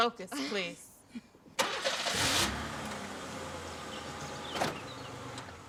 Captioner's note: car engine rumbles